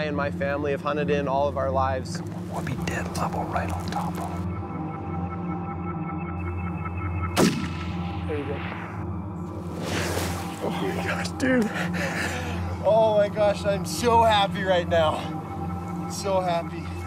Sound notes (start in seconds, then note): 2.9 whispering; 7.3 gun fires; 10.6 laughs